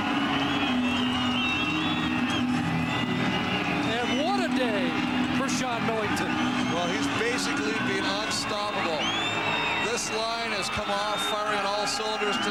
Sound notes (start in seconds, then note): 3.7 cheers/Applause